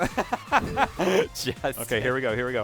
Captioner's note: laughter